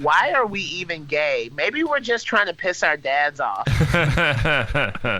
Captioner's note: laughs